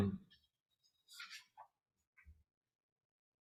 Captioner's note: silence